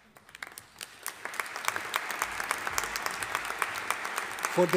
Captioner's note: audience applauding